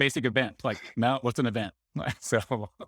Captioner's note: laughing